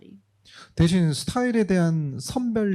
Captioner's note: speaking korean